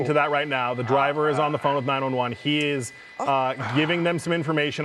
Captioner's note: laughter